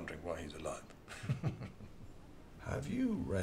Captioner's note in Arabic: يضحك